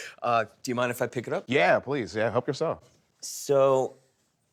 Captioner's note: none